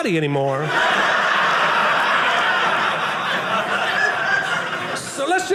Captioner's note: audience laughing